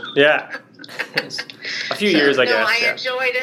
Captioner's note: both laugh